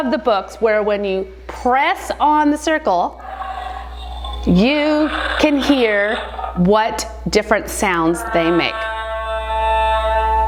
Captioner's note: dinosaur noise